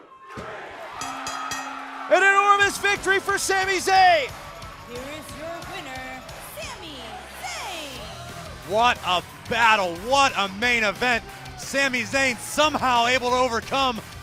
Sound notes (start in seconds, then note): 0.9 bell rings; 1.2 cheers & applause